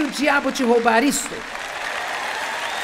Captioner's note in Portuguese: audiência se alegra; audiência aplaude